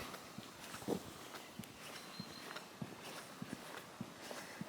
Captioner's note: foot thumping